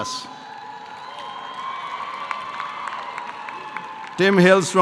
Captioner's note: audience applause